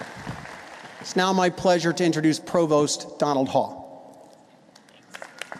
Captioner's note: applause